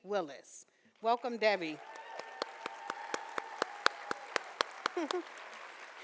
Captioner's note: audience cheering